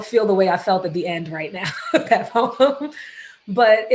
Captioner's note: laughs